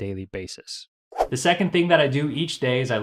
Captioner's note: whooshing